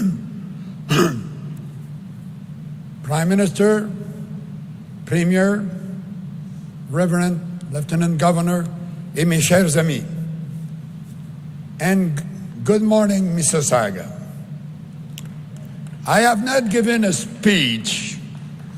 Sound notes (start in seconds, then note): 2.9 speaking in French